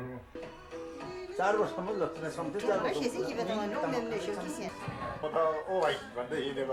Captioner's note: speaking in sherpa language